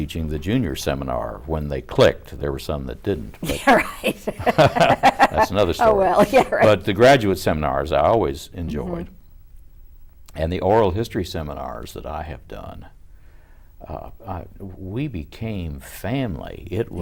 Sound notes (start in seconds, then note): 3.4 laughter